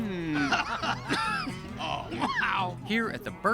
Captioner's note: coughs; laughing